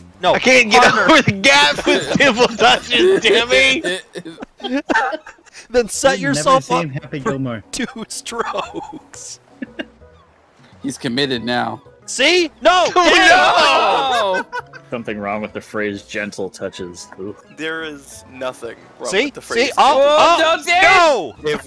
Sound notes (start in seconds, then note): 4.0 laughter